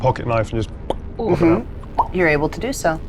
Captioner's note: pops lips